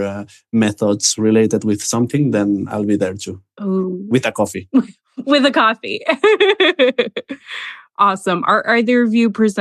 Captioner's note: laughs